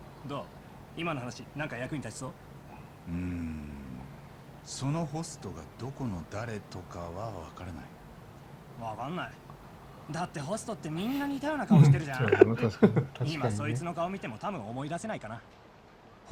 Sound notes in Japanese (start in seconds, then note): 10.9 笑い